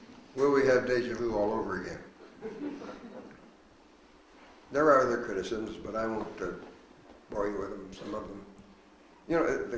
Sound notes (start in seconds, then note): 2.4 audience laughs